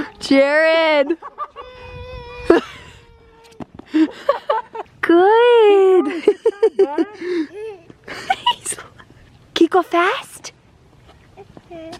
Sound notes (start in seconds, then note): 1.1 laughs; 5.5 laughs